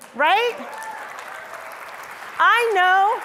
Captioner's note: audience applause